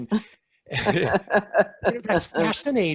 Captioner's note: laughing